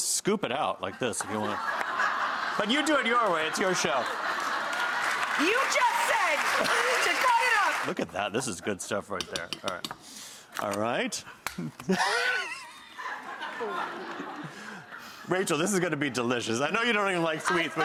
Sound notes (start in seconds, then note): 2.0 audience laughs; 4.5 audience applauds; 11.6 laughs